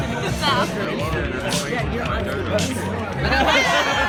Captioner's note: crowd chatters; distant club music